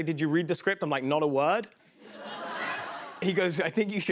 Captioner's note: laughter